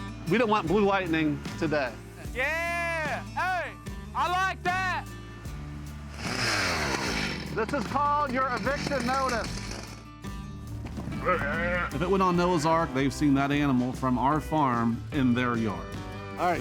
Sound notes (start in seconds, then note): 0.0 relaxed music; 5.6 chainsaw buzzing; 11.2 cow mooing